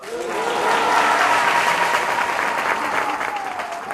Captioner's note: audience applauds